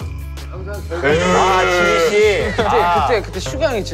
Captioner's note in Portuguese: chorou